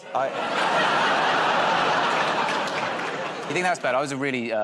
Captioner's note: laughter